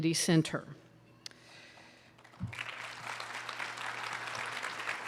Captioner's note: applause